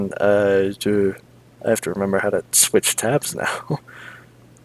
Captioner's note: small laugh